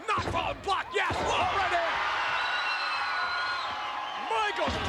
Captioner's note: spectators cheering